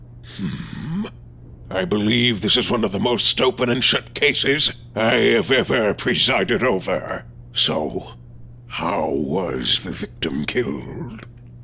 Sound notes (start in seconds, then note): none